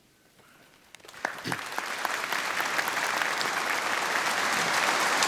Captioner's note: applause